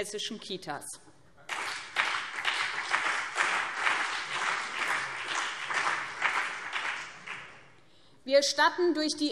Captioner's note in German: Beifall BÜNDNIS 90/DIE GRÜNEN und CDU